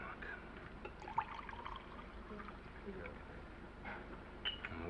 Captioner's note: scotch sloshing